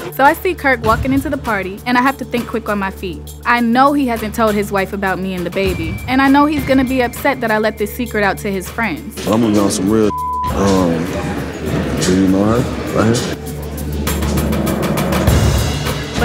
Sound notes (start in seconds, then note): 10.0 beep